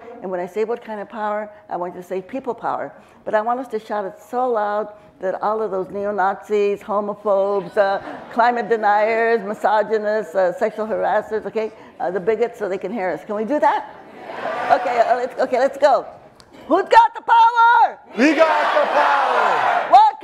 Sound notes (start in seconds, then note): 14.3 crowd yells "yes"